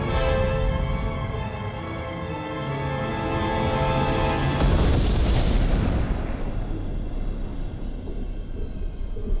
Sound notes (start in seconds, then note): 4.5 loud splash